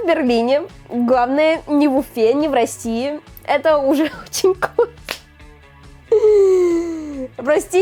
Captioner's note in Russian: смех